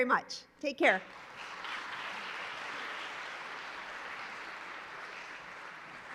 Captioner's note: applause